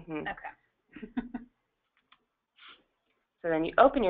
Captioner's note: chuckles